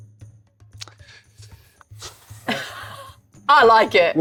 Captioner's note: sighs; laughing